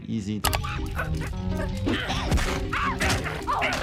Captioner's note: Handy grunting